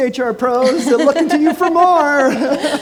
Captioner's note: laughs